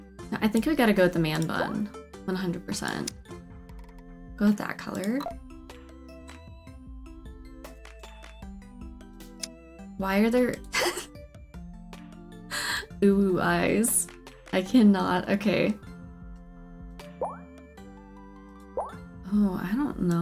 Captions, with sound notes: I think we got to go with the man bun. One hundred percent. Go with that color. Why are there [laughs] UwU eyes? I can not. Ok. Oh, I don't know